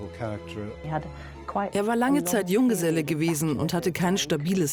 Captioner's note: voiceover